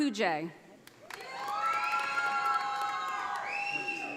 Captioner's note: audience applauding